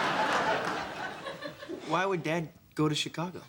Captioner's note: sighs